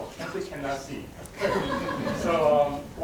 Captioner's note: audience laughing